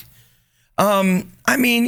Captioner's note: laughing